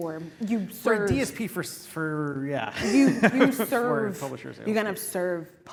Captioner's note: laugh